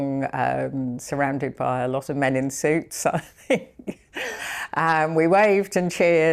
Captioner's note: chuckles